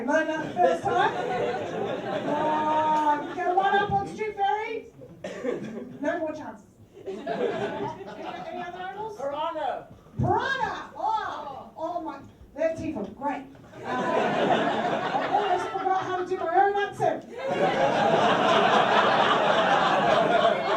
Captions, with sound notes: Learnt that the first time. You get one up on Strewth Fairy... No more chances. Any other animals? PIRANHA! Whoa! Oh my- Their teeth are GREAT. [giggles] Almost forgot how to my own own accent. [this laughter hurts]